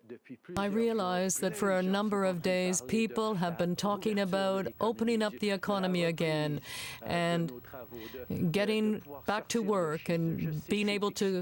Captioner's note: speaking french